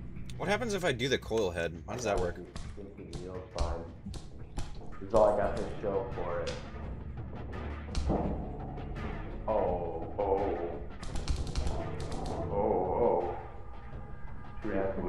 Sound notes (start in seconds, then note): 2.4 Coil-Head footsteps